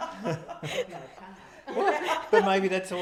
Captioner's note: laughing